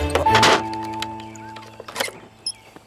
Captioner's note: Door closing